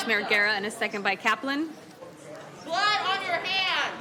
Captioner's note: disruptive crowd noise